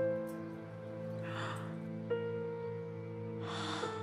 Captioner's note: Gasps